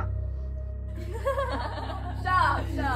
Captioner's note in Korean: 웃음